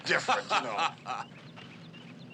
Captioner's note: laughing